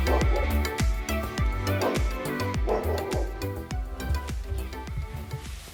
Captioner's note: dog barking